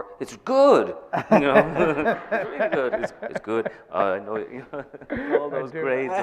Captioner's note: laughing